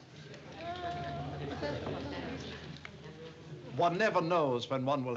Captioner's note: audience chatter